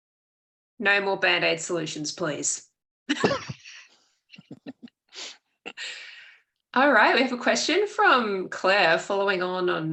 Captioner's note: laughs